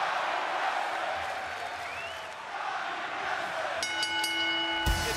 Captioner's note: crowd cheering; bell ringing